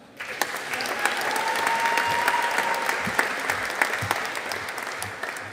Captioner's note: audience applauding